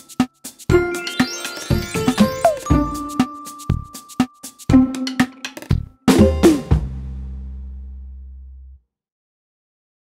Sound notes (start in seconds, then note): 0.0 upbeat music; 0.8 mystical tinkling